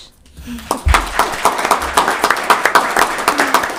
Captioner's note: applauds